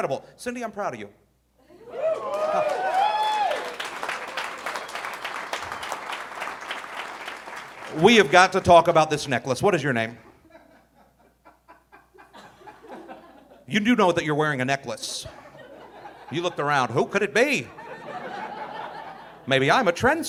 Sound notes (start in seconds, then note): 1.8 audience cheering; 10.4 audience laughing; 17.6 audience laughing